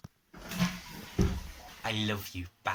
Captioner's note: toilet flush